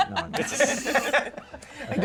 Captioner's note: laughter